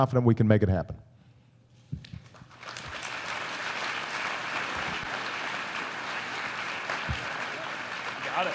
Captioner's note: applause